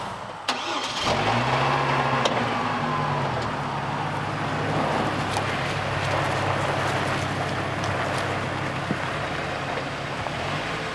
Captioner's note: truck starts / road noise